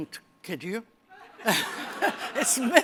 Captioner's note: laughter